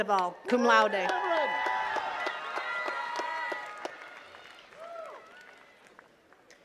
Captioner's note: attendees cheering and clapping